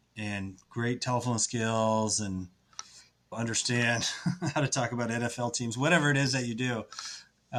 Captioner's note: laughs